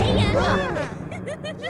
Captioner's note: screaming